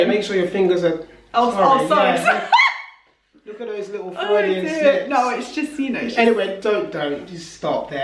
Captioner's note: laughs